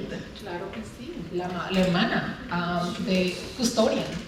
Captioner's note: speaking spanish